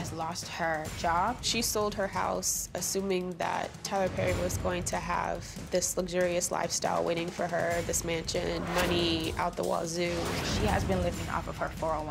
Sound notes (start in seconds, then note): none